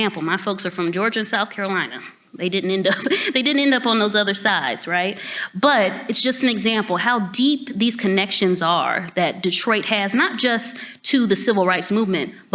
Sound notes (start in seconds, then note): 2.6 chuckles